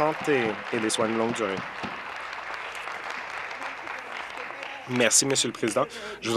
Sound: applause

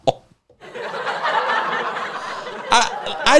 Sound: laughs; audience laughs

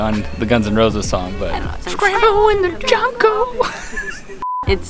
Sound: laughs

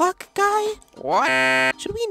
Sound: buzzing Sound

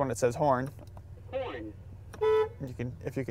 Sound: car voice; horn honks

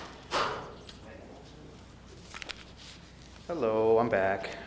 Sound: door closing

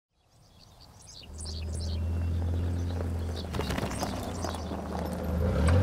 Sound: birds chirping; engine idling

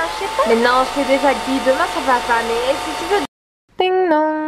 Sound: talking

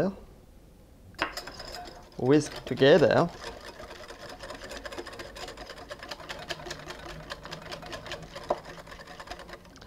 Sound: whisking sounds

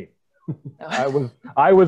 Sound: chuckles

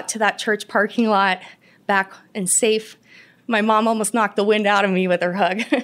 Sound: laughter

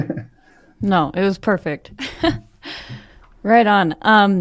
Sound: laughs

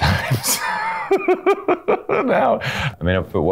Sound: laughs

